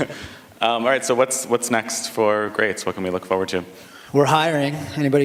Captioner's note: laughter